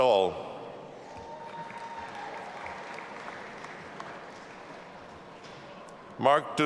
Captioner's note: audience applauding and cheering